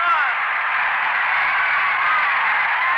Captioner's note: crowd cheering